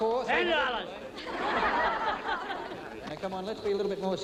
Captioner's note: crowd laughing